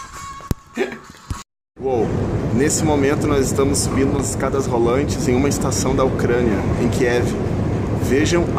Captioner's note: train